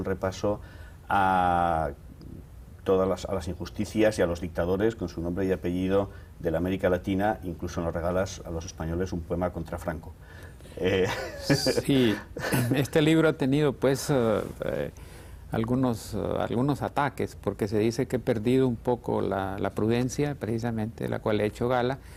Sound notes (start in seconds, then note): 10.9 ríe